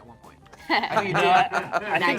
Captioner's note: laughing